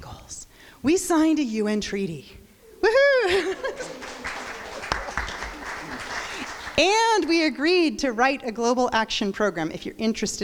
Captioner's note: crowd applause